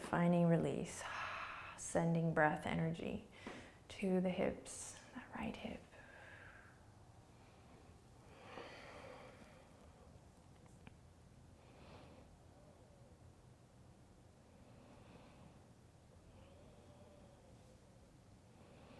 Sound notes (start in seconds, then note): 1.1 exhaling; 5.9 breathing